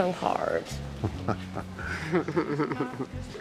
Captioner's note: chuckles